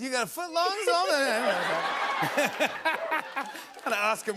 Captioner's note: laughter